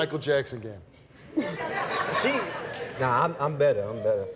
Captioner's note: audience laughs